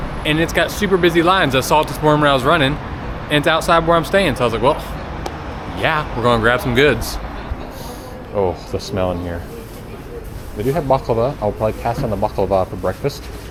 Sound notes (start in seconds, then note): 5.2 mouth pop; 7.6 sniffs